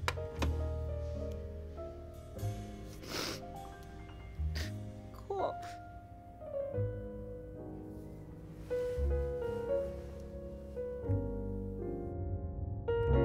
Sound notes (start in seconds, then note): 0.2 sniffles, chuckles; 5.2 sobbing